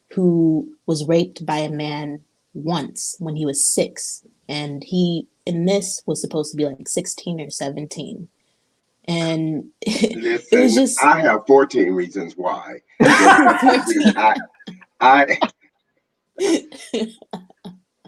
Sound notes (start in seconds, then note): 13.0 people laughing